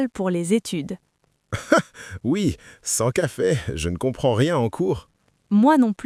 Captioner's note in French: rire